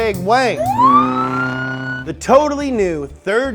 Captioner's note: siren blaring